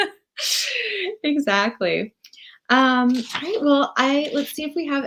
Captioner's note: laughs